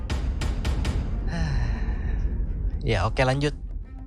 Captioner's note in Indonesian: Menghela nafas